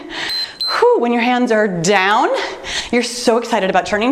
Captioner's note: timer beeps